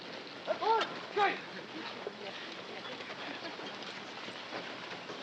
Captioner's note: shouting in Japanese